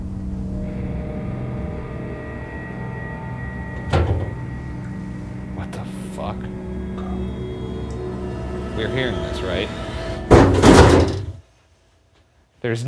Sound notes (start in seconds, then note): 0.1 gentle suspenseful music; 4.0 distant object clatters; 7.6 gentle suspenseful music; 10.2 metal cover bangs